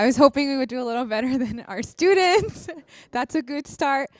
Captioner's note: laughs